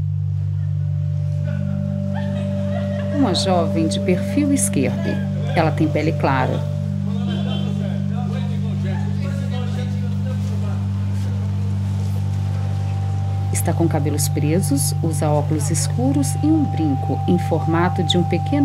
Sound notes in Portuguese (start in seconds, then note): 3.0 Som de burbúrios e carros passando